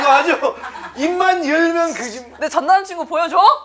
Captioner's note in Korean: 쒸익쒸익